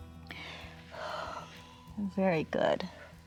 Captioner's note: exhales